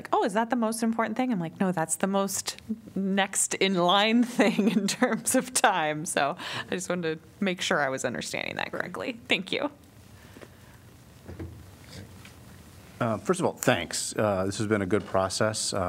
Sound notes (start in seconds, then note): 4.2 laughter